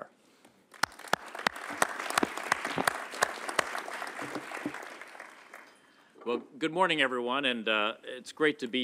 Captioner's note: applause